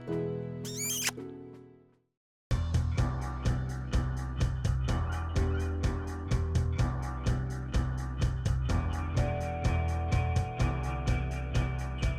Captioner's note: light piano music; kissing noises